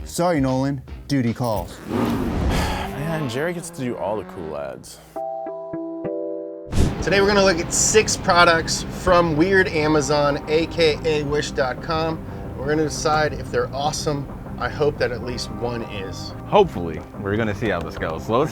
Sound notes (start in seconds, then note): 1.7 motorcycle roars; 1.9 sighs; 5.6 notes playing